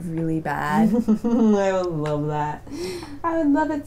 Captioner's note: laughing